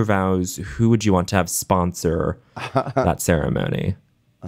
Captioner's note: chuckling